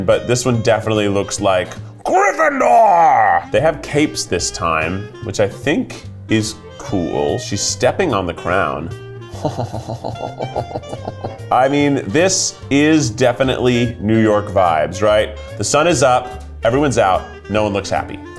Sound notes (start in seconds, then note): 9.3 chuckling